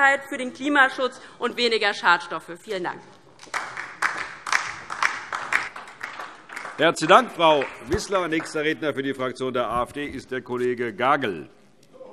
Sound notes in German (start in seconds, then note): 3.4 Beifall DIE LINKE